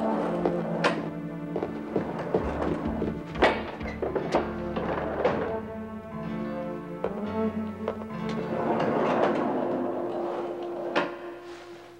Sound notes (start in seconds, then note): 1.5 footsteps thudding